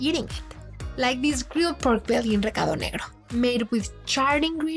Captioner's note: speaking Spanish